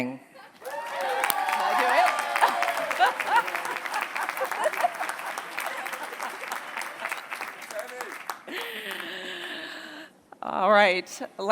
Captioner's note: applause